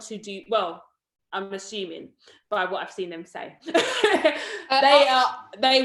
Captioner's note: laughs